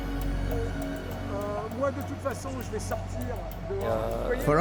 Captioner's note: man speaking French